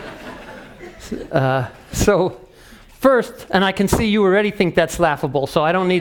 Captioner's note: laugh